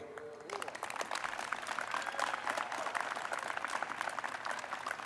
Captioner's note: audience applauds